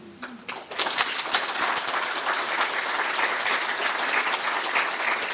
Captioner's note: applause